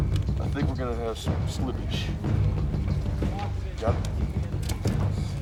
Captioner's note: none